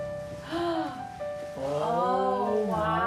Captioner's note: gasps